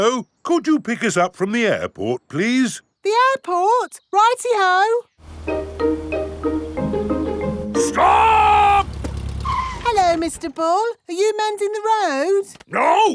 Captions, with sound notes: Hello. Could you pick us up from the airport, please? The airport? Righty-ho! -Stop! -(BRAKES SQUEAL) Hello, Mr. Bull. Are you mending the road?